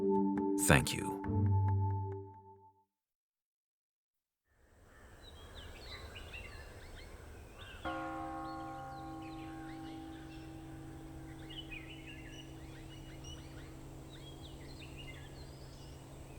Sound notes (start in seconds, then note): 7.7 bell gongs; 7.7 birds chirping